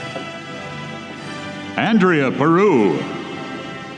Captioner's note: none